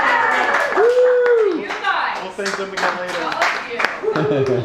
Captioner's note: applause and whoos